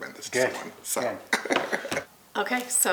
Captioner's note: chuckle